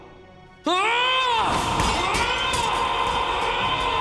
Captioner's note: yelling